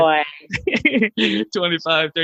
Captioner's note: laughing